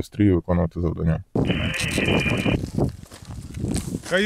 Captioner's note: the static crackle of a radio transmission sound